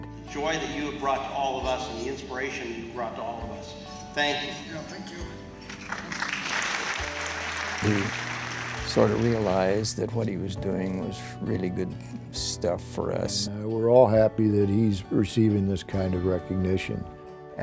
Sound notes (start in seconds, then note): 5.6 audience applauds